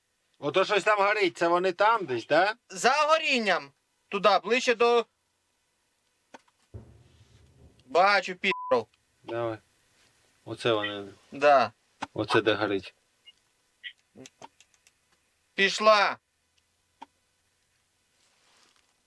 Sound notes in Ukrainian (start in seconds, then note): 2.7 у рацію